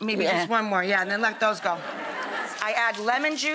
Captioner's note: audience laughing